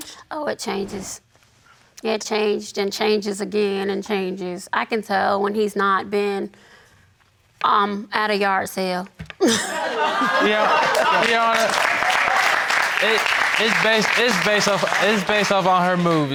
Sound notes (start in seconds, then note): 9.5 audience laughing; 11.8 audience applauding